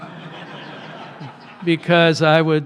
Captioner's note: laughter